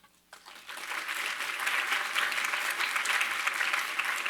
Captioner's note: audience applauds